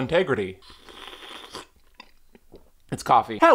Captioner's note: sips